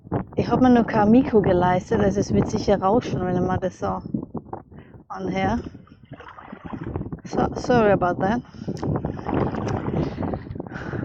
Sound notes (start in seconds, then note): 9.0 wind